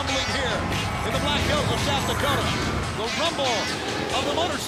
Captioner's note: crowd cheering